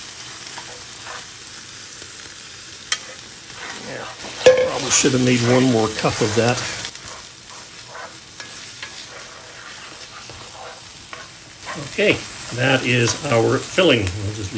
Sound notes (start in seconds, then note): 8.3 sizzling